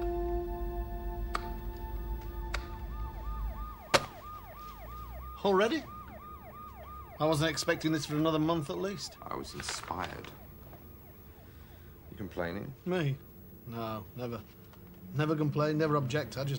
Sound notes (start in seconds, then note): 1.6 keyboard tapping; 1.6 sirens wailing in distance; 3.7 script thudding